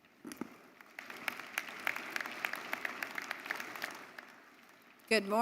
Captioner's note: audience applauding